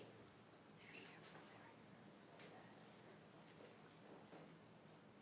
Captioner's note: speaks faintly